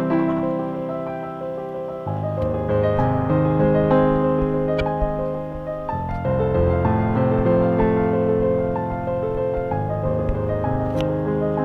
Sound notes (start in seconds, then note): 4.5 piano music; 4.5 scratching